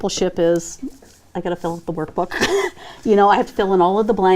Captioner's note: laughs